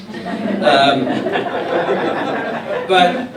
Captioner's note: laughter